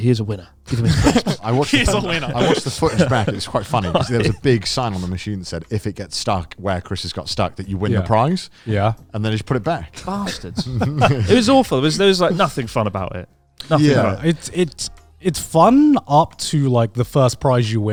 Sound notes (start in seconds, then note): 0.7 chuckling; 10.0 chuckling